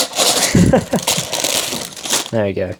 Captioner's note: laughs